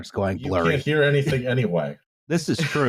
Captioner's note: laughs